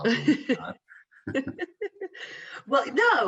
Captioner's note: laughing